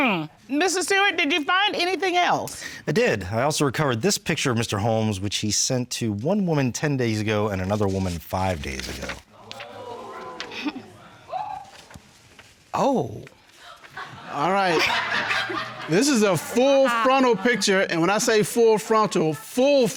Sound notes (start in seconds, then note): 9.3 audience exclaiming; 10.5 chuckles; 13.6 audience laughing